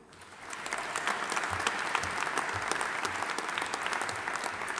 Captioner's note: audience applauding